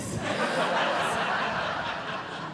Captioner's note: audience Laughing